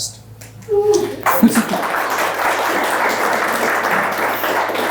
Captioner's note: audience applauds